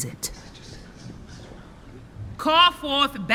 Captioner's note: voices murmuring